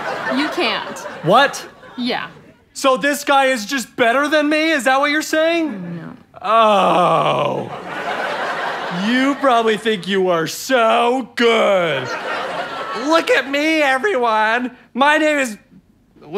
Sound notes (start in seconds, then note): 7.5 audience laughter; 11.8 audience laughter